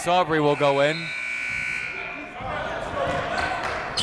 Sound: buzzer

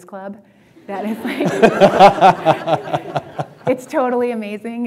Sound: laughter

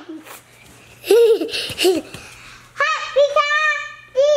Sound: laughing

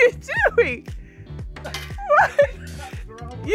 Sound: dart clangs on metal dustbin; chuckles

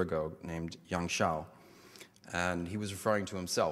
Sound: foreign language

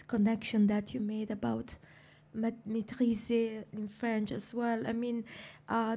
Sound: french

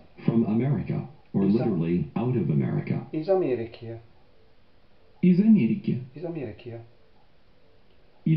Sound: in Russian

